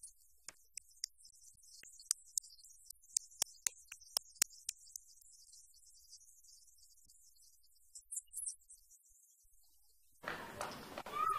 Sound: cheering and applause

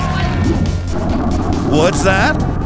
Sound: volcano rumbles

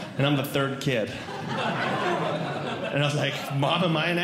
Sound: audience Laughing

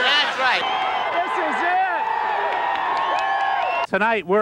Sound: cheering

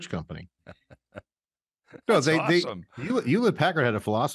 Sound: laughs

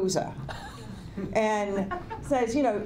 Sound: laughter

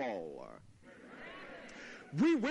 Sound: laughter

